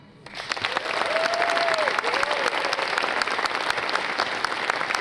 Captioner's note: audience applauds